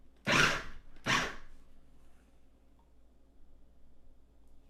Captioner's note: machine buzzing